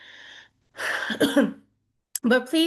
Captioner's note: coughs